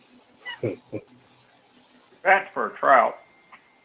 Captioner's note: laugh